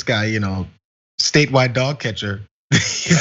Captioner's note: laugh